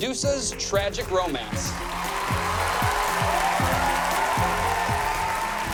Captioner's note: cheering